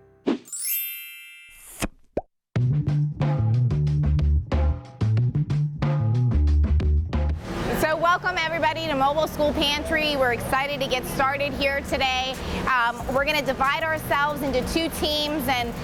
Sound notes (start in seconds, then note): 0.5 chimes ringing; 2.6 upbeat jazzy music